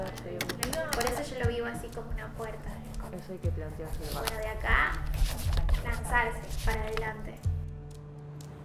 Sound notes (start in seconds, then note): 3.8 pages turning